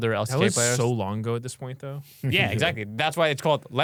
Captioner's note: laughs